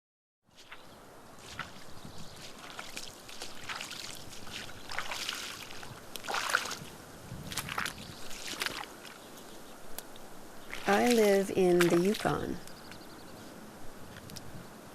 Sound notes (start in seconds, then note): 1.3 squelching footsteps